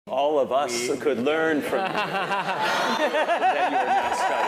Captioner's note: laugh